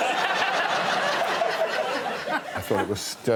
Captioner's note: laughter